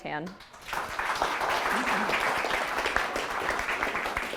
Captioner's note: audience applauding